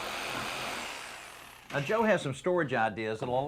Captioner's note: saw whirrs